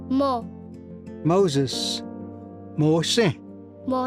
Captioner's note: repeats in Cherokee